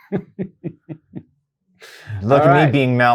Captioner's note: laughs